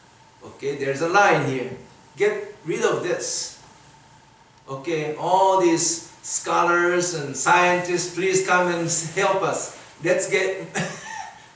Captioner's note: chuckles